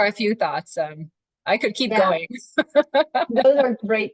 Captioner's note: laughs